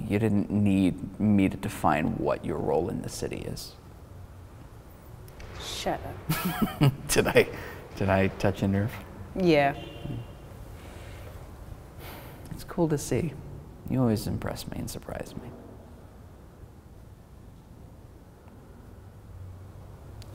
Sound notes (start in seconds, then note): 6.2 chuckling; 10.4 humming